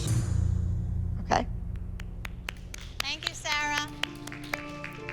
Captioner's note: applause